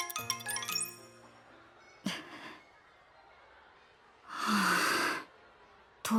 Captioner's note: sigh